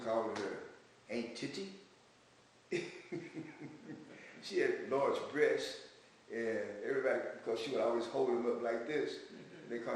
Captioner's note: laughs